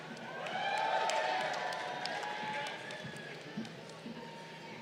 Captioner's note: crowd cheering